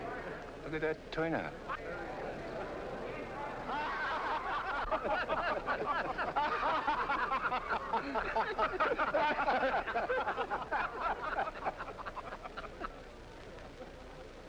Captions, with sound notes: Hey, look at that turnout. (people chuckling)